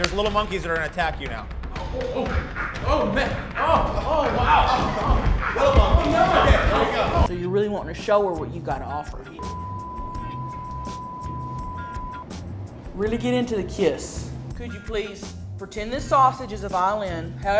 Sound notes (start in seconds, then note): 1.9 man chittering; 9.4 screen beeping